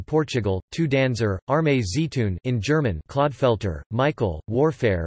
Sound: in German

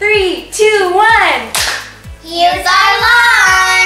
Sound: clap

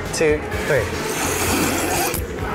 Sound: both slurping loudly

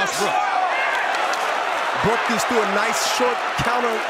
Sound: crowd cheers

